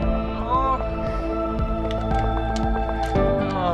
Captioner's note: groans